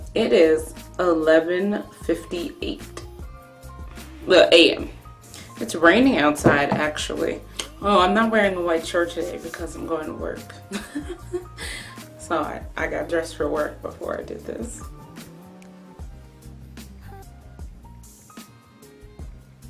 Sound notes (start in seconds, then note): 10.7 laughs